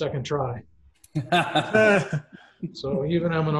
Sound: laughing

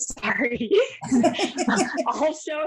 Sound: laughs

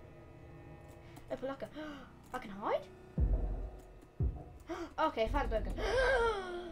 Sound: gasp

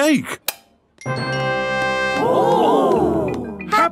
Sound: click

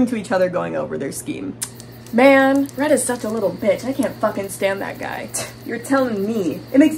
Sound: whispering

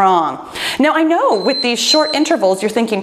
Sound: timer beeps

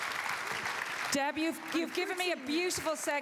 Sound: applause

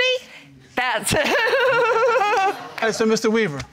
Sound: laughter

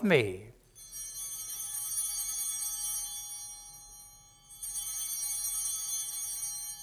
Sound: chimes ringing

